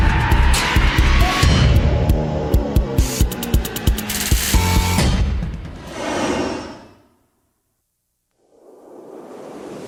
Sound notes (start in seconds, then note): 5.9 aircraft whirring